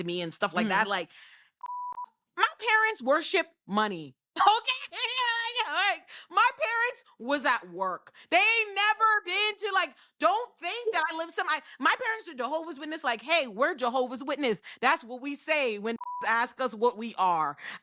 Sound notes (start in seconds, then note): 1.6 beep; 16.0 beep